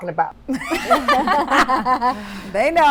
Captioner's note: all laughing